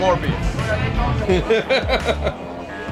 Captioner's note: laughs